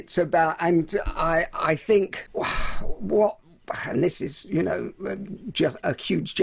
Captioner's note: sighs heavily